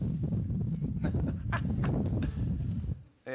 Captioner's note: laughs